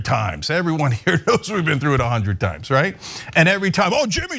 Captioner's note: laugh